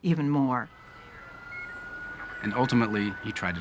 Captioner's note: sirens blaring